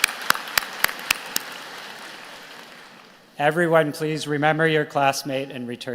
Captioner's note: applause